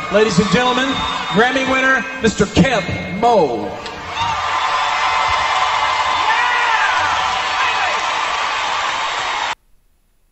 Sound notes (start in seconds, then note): 3.7 crowd cheering